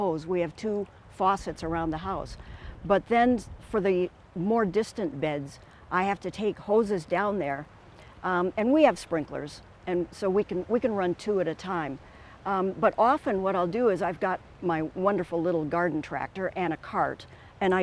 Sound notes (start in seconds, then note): none